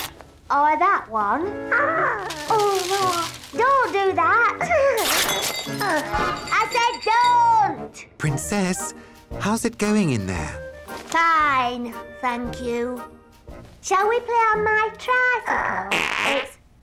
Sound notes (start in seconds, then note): 2.2 tearing; 2.6 coos; 5.5 crash